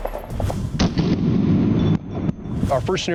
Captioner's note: slow motion gunshot